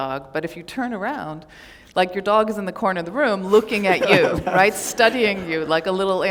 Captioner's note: laughter